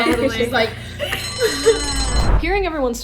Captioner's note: bell dinging